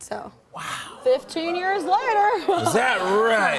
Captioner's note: chuckles